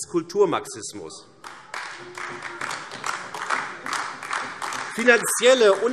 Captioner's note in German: Beifall AfD